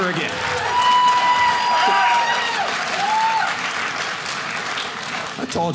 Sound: audience cheering

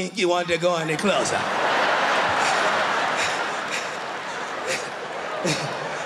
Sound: laughter

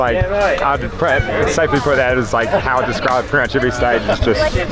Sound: murmurs

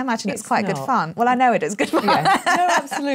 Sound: laughs

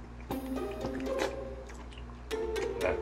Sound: slurp

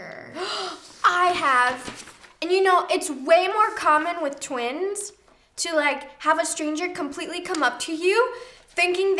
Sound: gasps

